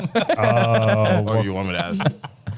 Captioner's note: laughing